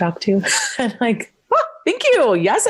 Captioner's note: laughs; exclaims